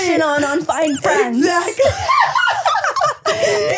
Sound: laughing

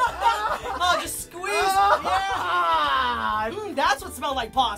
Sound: laughing; moaning

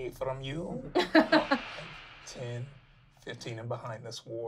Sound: laughing

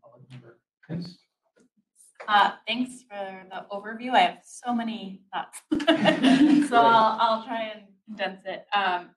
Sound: laugher

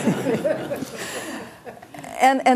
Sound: class laughs

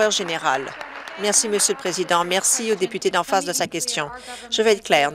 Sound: applause

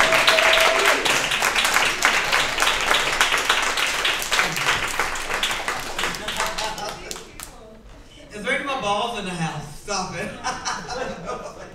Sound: cheering and applause from the crowd

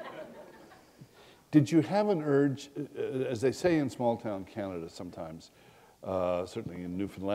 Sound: laughter

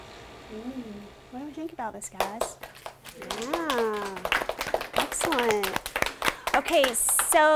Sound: applause

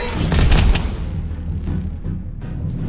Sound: door slamming; intense uptempo music

